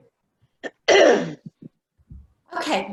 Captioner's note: clears throat